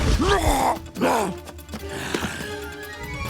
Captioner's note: grunting